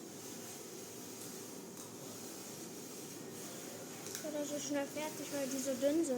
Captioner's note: speaking in foreign language